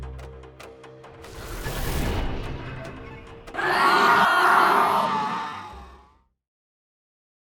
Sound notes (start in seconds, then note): 1.3 transition whooshing; 3.5 ominous screaming and roaring